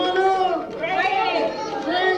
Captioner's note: shouting